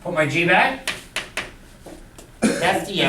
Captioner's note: voiceover